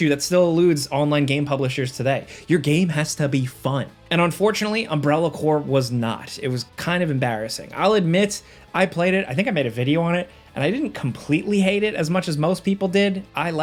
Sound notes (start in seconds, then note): none